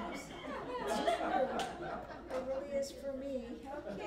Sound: laughter

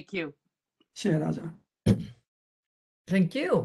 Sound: speaks in Mandarin

